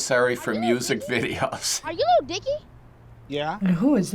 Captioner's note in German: kichert